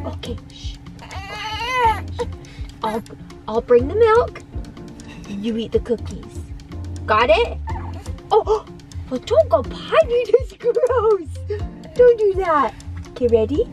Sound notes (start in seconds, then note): 0.9 baby cooing